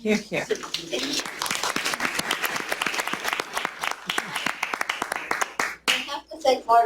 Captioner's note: applause